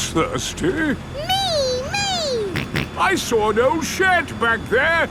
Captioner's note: snorts